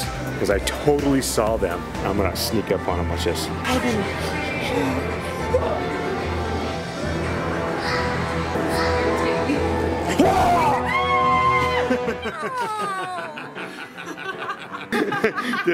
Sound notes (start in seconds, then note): 10.1 shouting; 10.2 screaming; 13.7 laughing